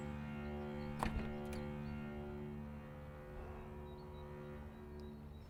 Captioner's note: truck door clicks